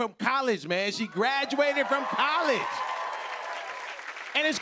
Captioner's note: cheers and applause